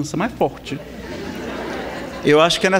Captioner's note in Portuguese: Risadas